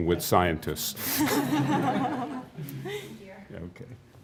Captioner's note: laughing